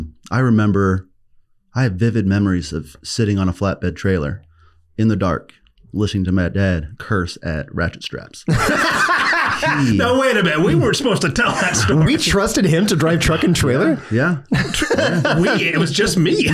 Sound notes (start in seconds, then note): 8.5 laughs